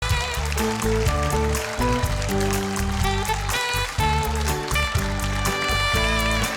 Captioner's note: audience applause; bright music